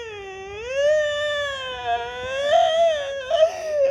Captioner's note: crying